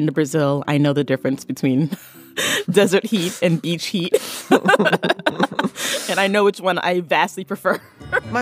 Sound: both laugh

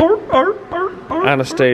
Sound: honks

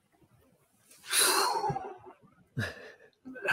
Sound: exhales; laughs

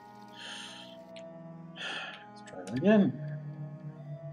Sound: sighs

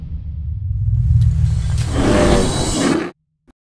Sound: bear roars

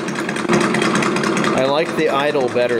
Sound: engine idling

